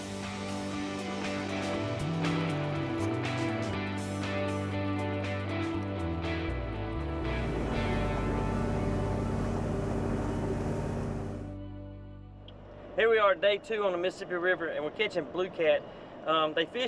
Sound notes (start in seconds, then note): 0.3 soft music; 7.2 boat engine revs; 8.1 soft music